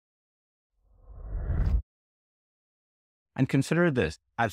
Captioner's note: air whooshing